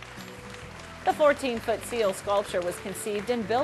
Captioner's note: applause